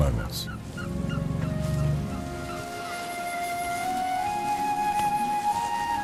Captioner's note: animals calling